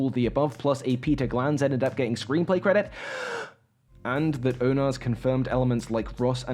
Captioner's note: loud breath, pause